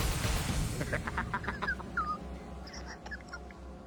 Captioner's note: laughing